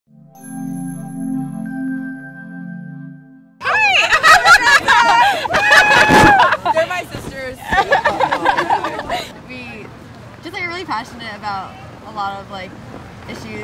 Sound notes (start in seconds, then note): 3.6 laughing